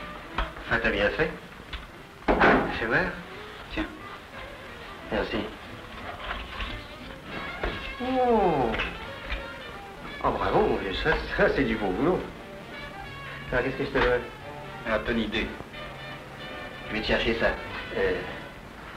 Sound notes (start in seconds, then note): 2.2 door noise